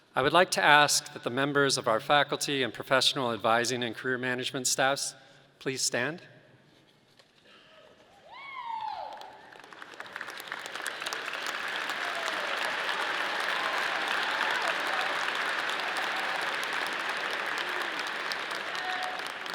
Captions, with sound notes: I would like to ask that the members of our faculty and professional advising and career management staffs please stand? (audience cheering)